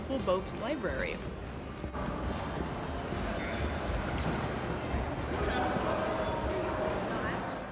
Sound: chatter

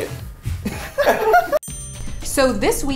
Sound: laughs

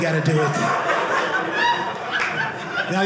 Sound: audience laughing

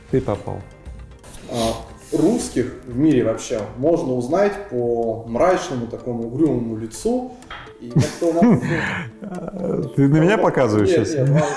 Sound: laughs

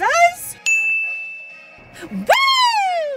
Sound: ding

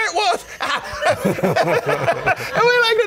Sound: laughing

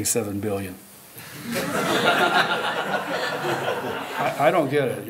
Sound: laughter

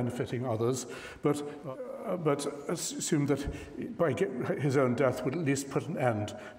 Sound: stammers

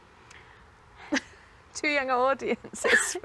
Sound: laughs

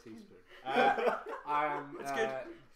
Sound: laughter

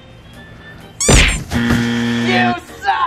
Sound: upbeat music; buzzer ringing

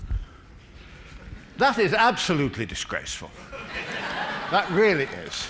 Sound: laughter

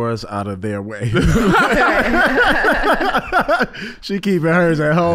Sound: all laughing

